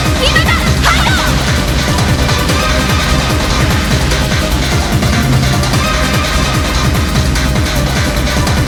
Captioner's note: the bomb's explosion noise